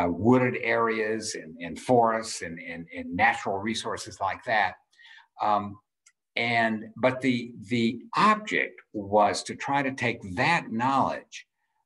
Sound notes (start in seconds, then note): none